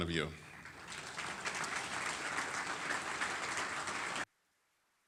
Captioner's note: audience applauding